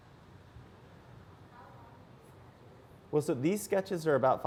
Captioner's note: voiceover